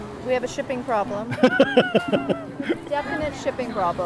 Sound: laughing

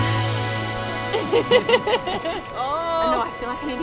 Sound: upbeat music; laughing

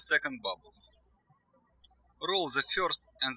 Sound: birds chirping

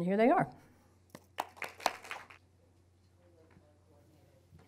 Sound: applauding

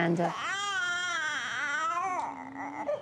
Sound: cries

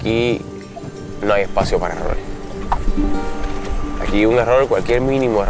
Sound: mysterious music; speaking in foreign language

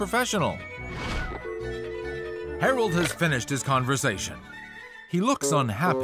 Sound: dial tone

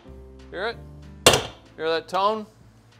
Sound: hammer pounding

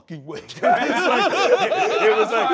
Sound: laughter

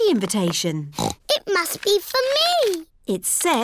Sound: snorts

